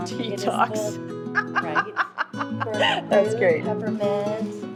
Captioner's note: laughs; sniffs